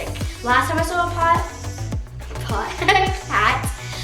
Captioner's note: laughs